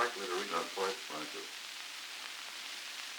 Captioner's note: Murrow, mumbling